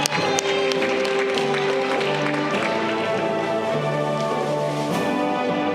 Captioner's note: audience clapping